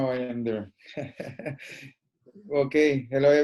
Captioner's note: laughing